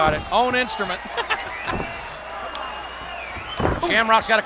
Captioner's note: Jerry laughs